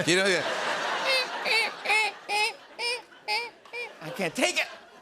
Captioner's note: imitates squeaking